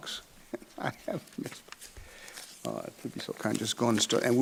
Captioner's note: laughs